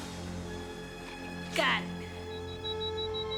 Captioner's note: beeping